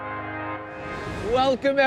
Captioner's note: inspiring music; graphics whooshing